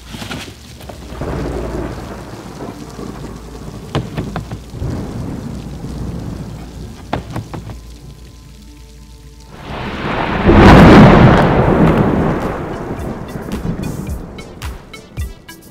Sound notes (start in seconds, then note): 3.9 trash can rattles; 9.5 thunder booms; 12.7 upbeat techno music